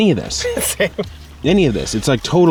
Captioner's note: chuckles